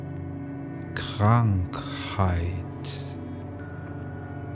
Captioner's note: german